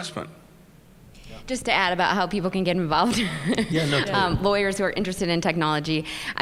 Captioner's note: chuckle